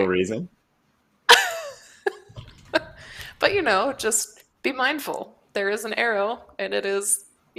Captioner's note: laughs